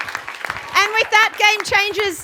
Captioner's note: cheering and Applause